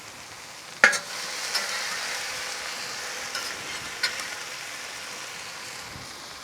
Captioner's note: spatula scrapes against discada